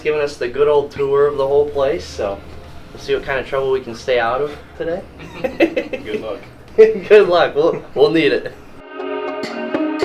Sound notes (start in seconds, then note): 5.2 laughing